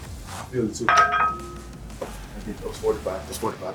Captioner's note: weights clattering